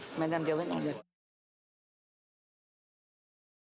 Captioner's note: speaking French